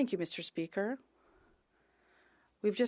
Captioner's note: speaking French